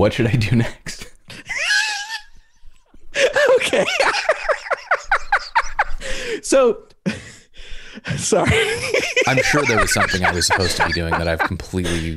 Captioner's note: laughter